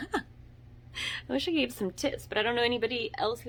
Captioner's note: laughs